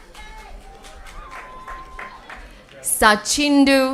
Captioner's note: applause